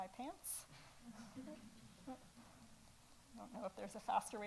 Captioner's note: audience laughs